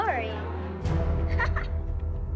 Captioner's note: chuckles